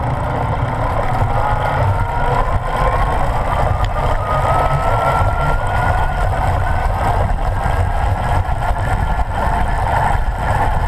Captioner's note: electric motor and cassette noises